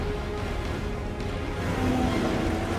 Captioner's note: tires screech